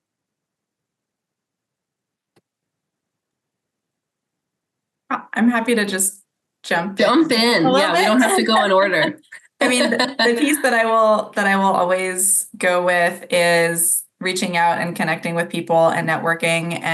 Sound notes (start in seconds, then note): 7.2 laughs